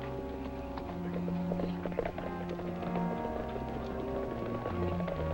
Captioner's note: distant hooves clop